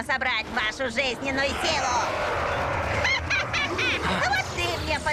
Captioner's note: laughs evilly